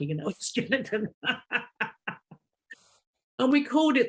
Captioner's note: laughing